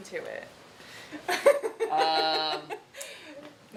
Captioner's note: laughing